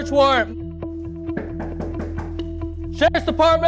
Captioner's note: person knocking on door